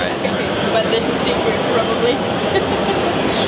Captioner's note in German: Gelächter